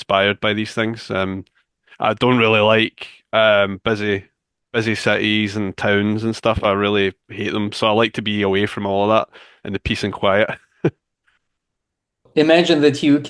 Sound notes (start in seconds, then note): 10.3 chuckles